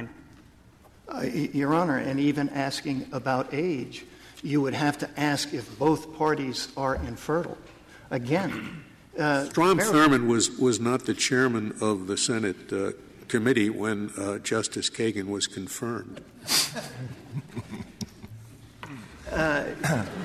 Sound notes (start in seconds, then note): 16.6 laughter